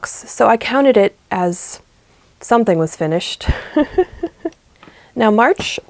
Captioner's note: laughs